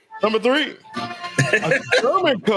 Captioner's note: laughs